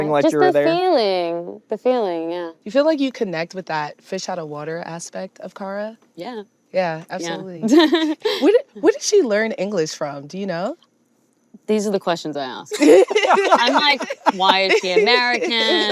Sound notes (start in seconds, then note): 7.6 chuckles; 12.7 hosts laughing